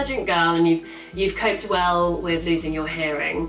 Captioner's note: none